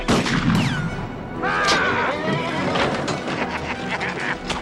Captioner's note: horse neighs; Cole shouts; Cyrus laughs